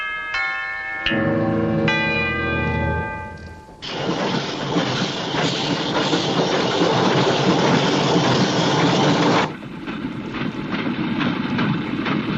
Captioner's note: bell